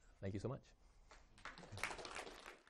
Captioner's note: applause